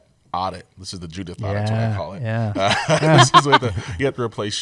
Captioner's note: laughter